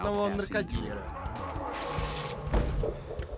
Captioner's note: fabric ripping